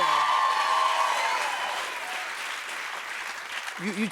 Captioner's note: cheers and applause